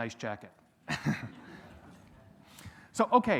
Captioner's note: audience laughs